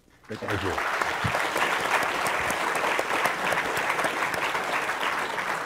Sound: audience applause

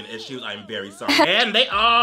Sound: person laughs

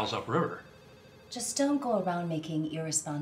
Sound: phone ringing

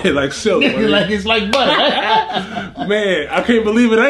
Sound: laughs

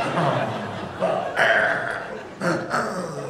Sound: wheezing

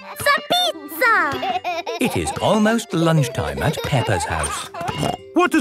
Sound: laughing

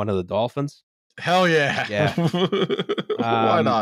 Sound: laughs

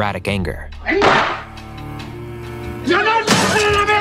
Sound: hitting table

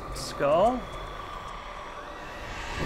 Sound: skull snarls

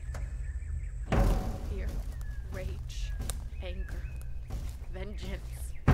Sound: puietly/incantatory

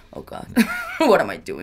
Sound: laughing

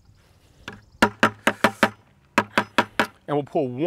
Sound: loud tapping

